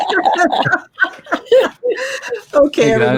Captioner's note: laughter